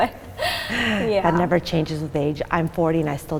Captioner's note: laughing